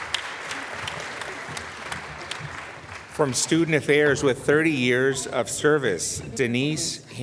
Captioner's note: applause